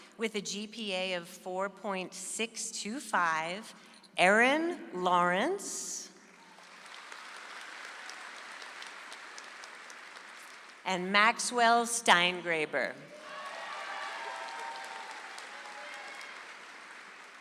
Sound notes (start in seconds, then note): 6.4 audience applauds; 13.1 audience applauds